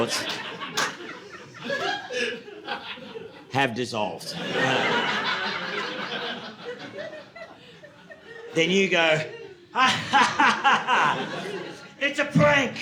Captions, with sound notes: (audience laughing) "have dissolved." (audience laughing) Then you go, "Ah ha ha ha ha, it's a prank.